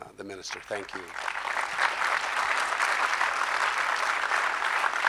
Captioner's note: audience clapping